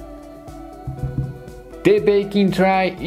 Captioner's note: finger thuds